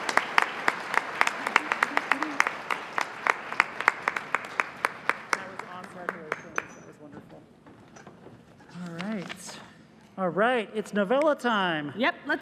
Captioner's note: applause